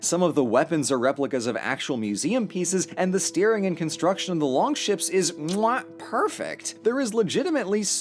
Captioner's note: mwah